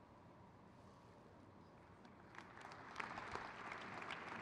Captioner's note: crowd cheers